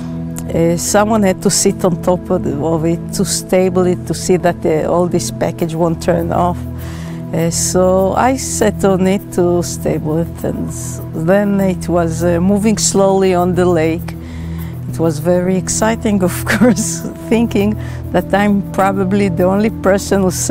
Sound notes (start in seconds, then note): 16.7 chuckles